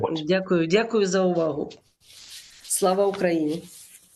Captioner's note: foreign language